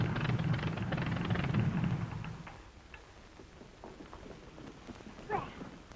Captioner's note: plane engine stops